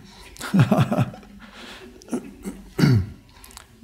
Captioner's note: laughing